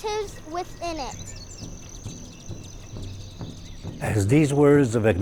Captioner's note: birds chirping